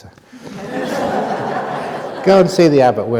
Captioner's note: laughter